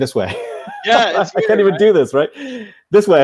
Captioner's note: laughing